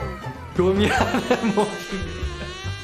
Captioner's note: mosquitoes mating